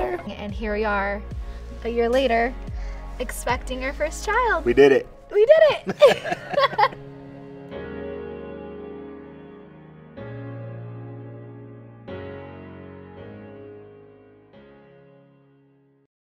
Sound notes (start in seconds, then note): 5.8 both laughing; 7.7 bright music continues